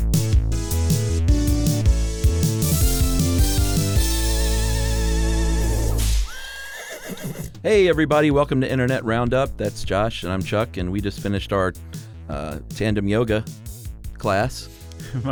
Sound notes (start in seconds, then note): 6.0 whip cracks; 6.2 horse whinnies